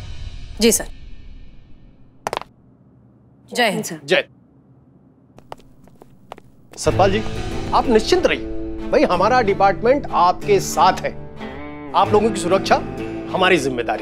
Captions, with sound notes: Yes, sir. [feet stomping] - Jai hind, sir. - Jai hind. Mr. Satpal, you can relax now. Our department is with you on this. Your safety is our responsibility.